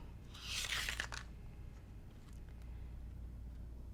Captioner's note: paper rustling